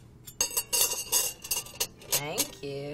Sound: silverware clattering

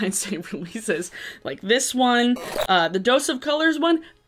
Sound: static squeals

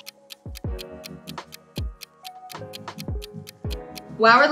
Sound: clock ticking

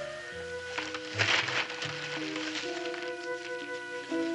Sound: rustling

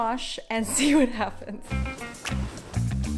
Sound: giggles; upbeat music

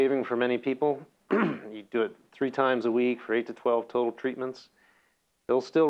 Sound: cough

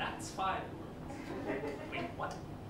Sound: laughter

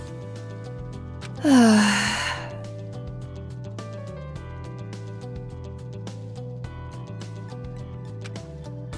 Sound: sigh

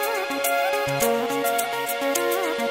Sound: clap

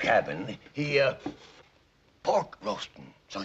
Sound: sniffing

